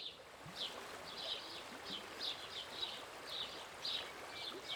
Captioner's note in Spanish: pajaros y rio de fondo